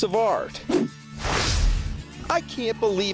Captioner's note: swooshing